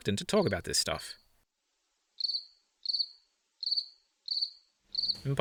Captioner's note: cricket chirp